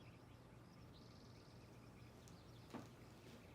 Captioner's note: birds chirping